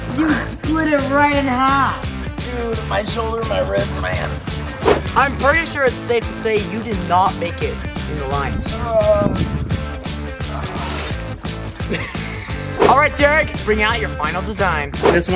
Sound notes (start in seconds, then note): 10.4 moans; 11.8 laughs